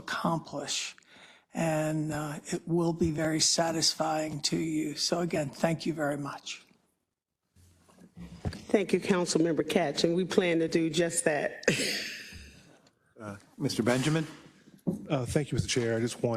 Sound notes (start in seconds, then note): 13.1 laugh